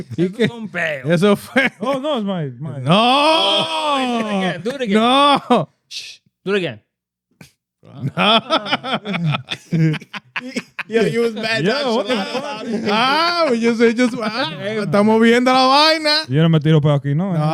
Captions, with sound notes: That's a mone man. That's a f-- Oh, no, it's mine. No. Oh, I thought I can't do it again. No. Shh. Do it again. No. (Laughter) Yo, you was bad at that shit. What the hell? (Speaking Spanish) No.